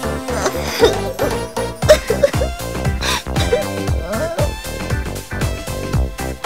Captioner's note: rain